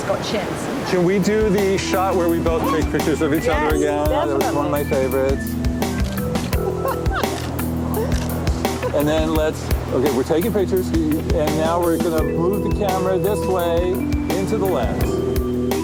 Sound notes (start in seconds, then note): 5.6 camera shutter clicks; 6.6 laughs; 15.6 ambient music